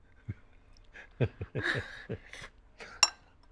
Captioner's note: laughs